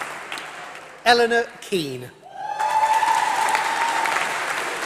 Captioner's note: applause